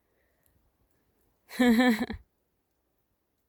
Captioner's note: laughs